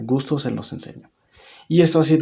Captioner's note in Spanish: Silencio